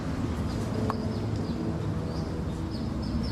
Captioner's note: birds chirping